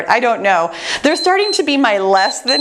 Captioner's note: timer beeps